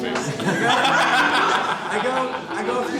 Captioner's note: men laugh